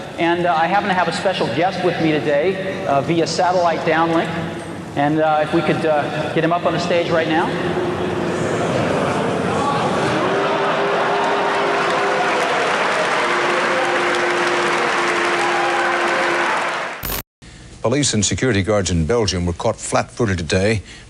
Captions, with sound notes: And I happen to have a special guest with me today via satellite downlink, and if we could get him up on the stage right now. [CROWD BOOS] Police and security guards in Belgium were caught flat-footed today